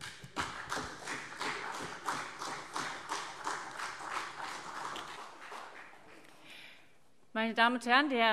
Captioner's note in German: Beifall CDU und BÜNDNIS 90/DIE GRÜNEN